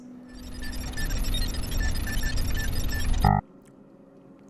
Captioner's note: beep boop calculating noises